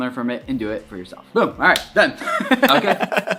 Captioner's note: laughing